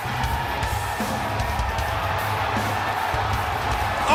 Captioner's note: cheers & applause